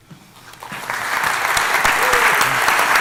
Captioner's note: applause